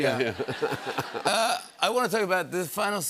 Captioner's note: laughter